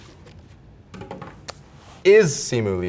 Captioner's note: board hits floor; hands clap